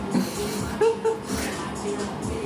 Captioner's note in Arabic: يضحك